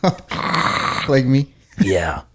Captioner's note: snores